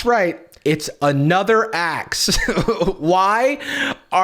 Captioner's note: laughs